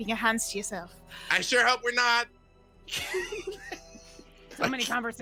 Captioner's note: laughs